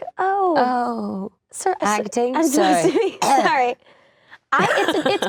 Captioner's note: coughing